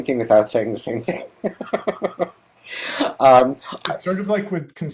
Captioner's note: laughs